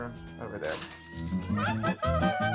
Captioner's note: lively music; glass breaking